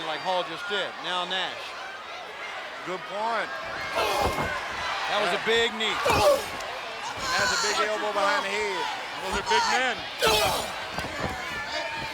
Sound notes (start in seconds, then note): 4.2 Booker grunting; 10.3 Booker grunting; 11.8 crowd yelling